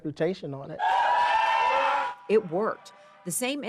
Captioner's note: Lamar's loved ones cheering